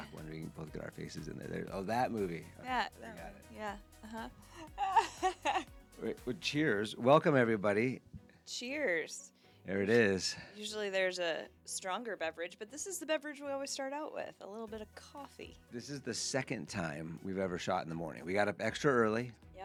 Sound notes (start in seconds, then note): 4.0 laughing